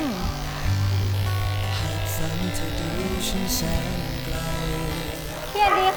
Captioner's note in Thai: เสียงปัตตาเลียน